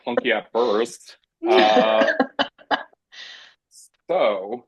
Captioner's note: laughing